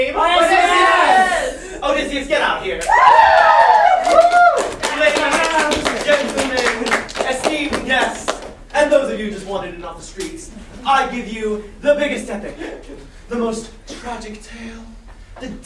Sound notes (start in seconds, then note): 2.8 cheering